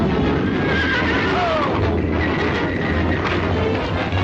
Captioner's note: horse neighing